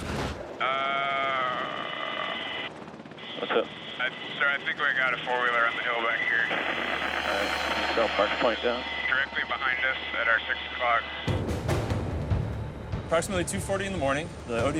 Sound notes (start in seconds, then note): 0.6 man groaning; 11.8 intense music